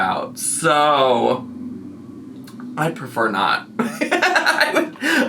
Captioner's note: laughs